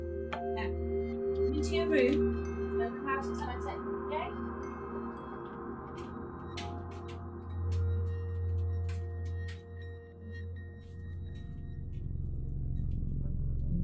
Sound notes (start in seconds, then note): 0.0 tense ambient music; 4.8 tense ambient music; 7.8 door clicks; 10.5 tense ambient music